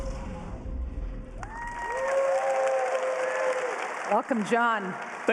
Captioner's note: applause